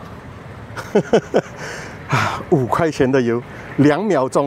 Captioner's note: laughs